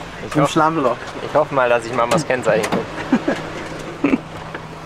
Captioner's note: laughs